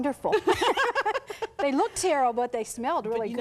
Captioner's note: both laugh